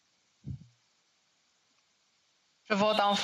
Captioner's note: speaking French